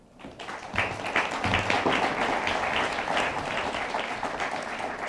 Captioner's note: attendees applauding